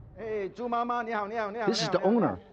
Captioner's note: speaks in foreign language